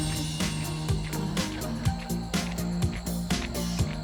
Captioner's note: footsteps approaching